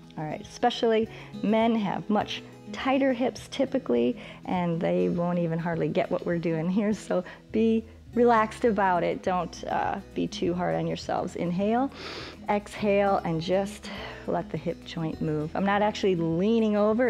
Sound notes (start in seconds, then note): 11.9 inhales